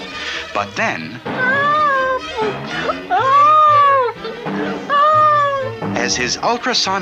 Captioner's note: bouncing!